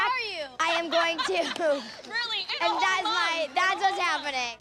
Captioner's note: laughter